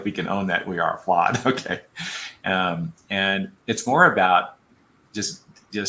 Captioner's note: laughter